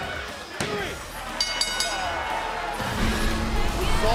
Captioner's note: bell ringing